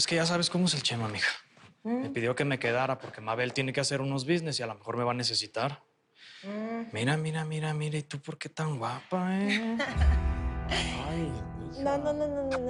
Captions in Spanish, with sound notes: - POS, SI, PERO POS, ES QUE YA SABES COMO ES EL CHEMA, M'HIJA. ME PIDIO QUE ME QUEDARA, PORQUE MABEL TIENE QUE HACER UNOS NEGOCIOS Y A LO MEJOR ME VA A NECESITAR. - !HUM! - MIRA, MIRA, MIRA, MIRA, ¿Y TU POR QUE TAN GUAPA, EH? [Risas] !AY...!